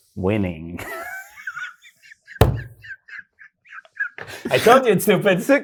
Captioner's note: both laughing